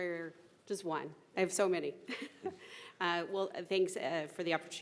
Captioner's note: chuckling